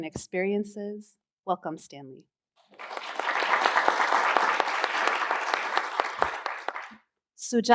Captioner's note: applause